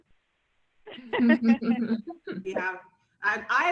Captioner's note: laughs